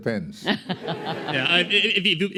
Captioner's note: laughter